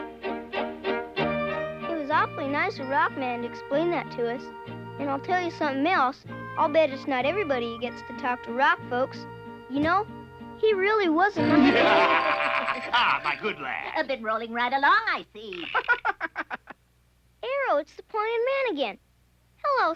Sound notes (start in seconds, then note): 0.0 light orchestral music; 11.4 laughing; 15.4 laughing